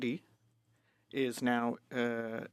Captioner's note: speaking French